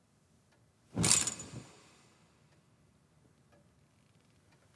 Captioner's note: curtains rattling